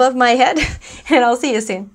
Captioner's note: chuckles